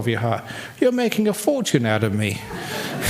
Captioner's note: laughter